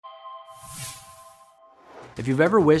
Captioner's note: musical sound effect